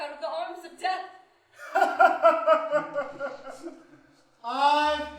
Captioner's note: laughs